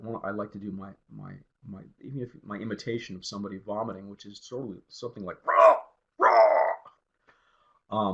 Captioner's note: sounds of vomiting